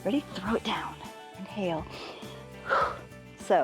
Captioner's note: inhales and exhales